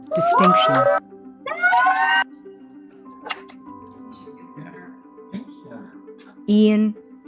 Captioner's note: cheering